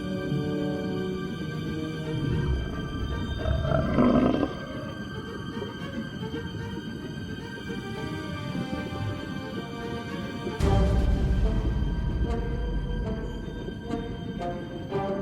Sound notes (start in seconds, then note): 3.2 creature growls; 6.2 soft mysterious music